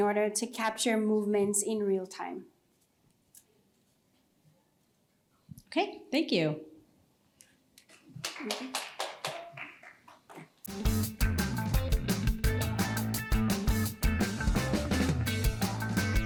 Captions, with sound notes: to capture movements in real time. OK. Thank you. [Scattered clapping] [Theme music playing]